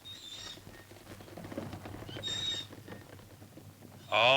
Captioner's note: cart wheels continue creaking